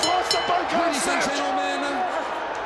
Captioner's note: bell ringing